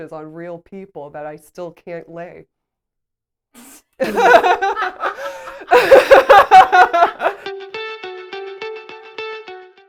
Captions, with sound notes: on real people that I still can't lay. (laughs)